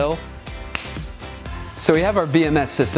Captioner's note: snapping sound